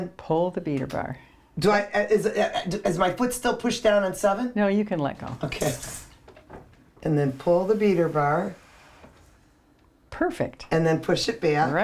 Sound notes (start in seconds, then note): 1.9 stutters